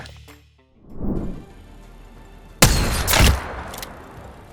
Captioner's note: sound of shooting